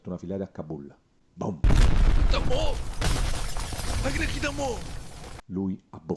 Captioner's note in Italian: Esplosione vetri